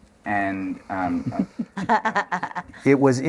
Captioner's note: laughter